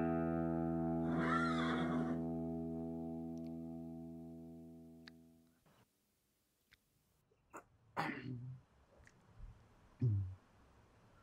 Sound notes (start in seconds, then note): 1.0 horse neighs